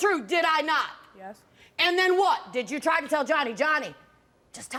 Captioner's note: none